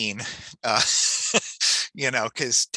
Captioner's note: chuckles